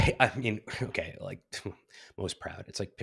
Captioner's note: scoffs